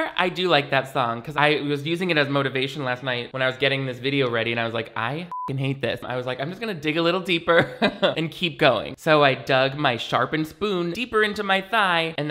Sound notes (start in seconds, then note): 5.3 beep; 7.6 laughs